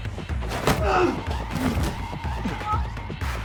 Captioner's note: Hades grunts; Mr. Black grunts; both thudding